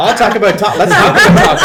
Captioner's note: all laugh